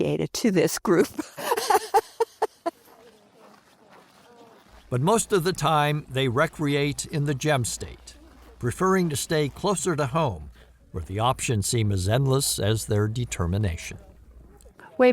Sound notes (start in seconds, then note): 1.1 laughs